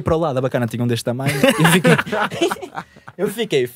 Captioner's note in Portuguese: risos